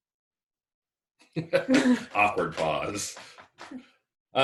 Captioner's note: laughs